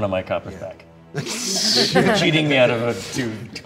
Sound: laughter

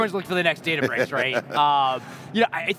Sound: laughs

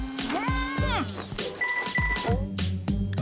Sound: notification sound

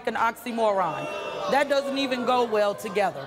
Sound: audience booing

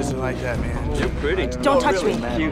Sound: overlapping chatter

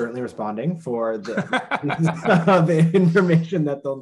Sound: both laughing

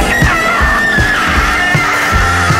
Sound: pterodactyl scream

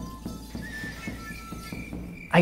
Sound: crickets

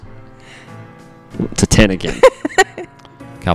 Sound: laughs

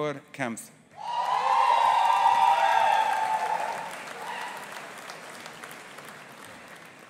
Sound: audience applauding and cheering

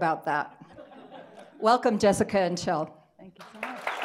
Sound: audience laughing; audience applauding

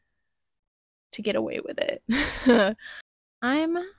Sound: laughter

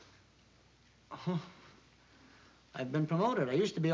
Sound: chuckles

